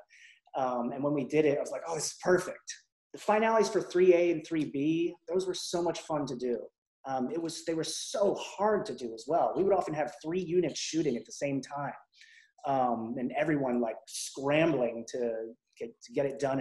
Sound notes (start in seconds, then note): none